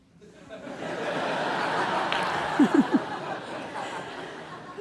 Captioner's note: audience laughing